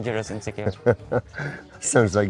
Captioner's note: laughs